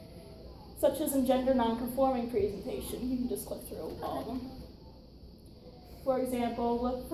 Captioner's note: whispers